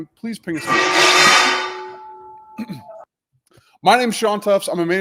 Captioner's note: loud crashing